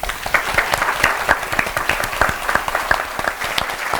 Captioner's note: applause